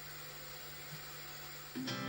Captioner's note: static crackles